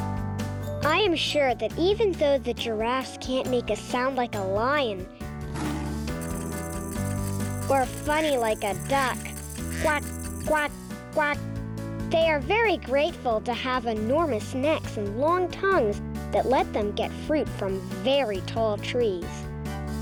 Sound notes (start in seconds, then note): 5.5 wings flapping; 5.6 roar